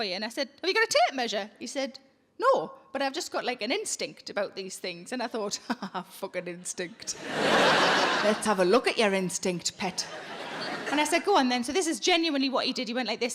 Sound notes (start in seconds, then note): 7.0 audience laughing; 7.2 laughs